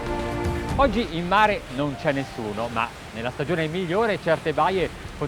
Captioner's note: speaking Italian